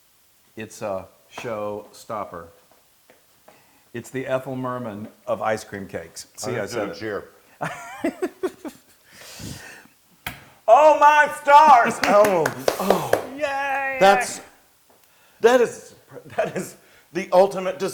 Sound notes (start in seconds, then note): 10.2 laugh; 11.8 applause